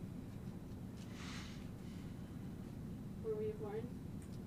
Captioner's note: sighing